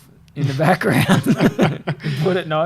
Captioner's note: laughing